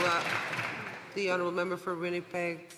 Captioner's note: some Applause